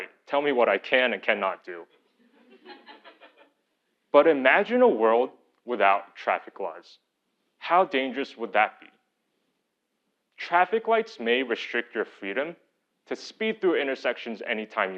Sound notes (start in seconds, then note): 2.2 laugh